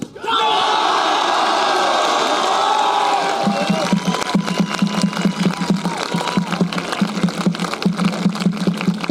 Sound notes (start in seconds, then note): 0.2 cheering; 2.5 applause